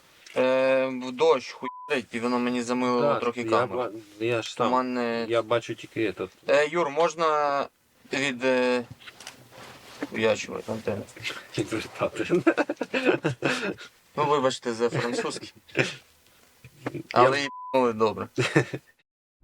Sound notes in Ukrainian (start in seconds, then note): 11.2 сміється; 15.4 сміється